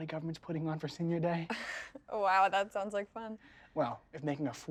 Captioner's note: chuckles